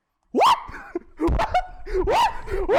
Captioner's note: laughs